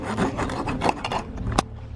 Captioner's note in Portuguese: som de corte da pizza